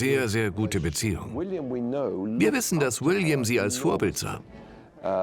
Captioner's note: voiceover